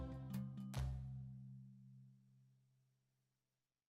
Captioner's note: hands clap